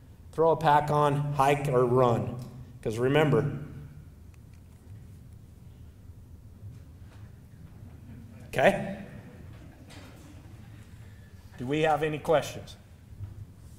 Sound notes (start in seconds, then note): 4.5 silence; 7.3 audience laughing